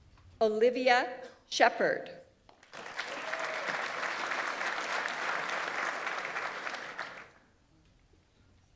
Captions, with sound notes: Olivia Shepherd. (audience applauds) (audience member cheers)